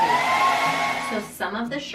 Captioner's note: hairdryer whirring